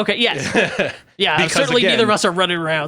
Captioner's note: laughs